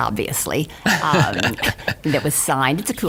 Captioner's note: laughing